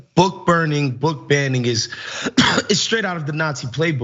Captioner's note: cough